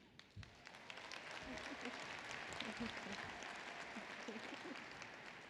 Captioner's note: applause